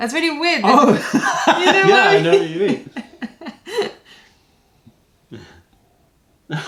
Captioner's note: laughter; laughter